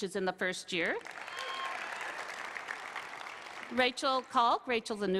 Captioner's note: applause